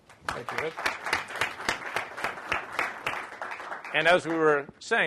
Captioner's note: applause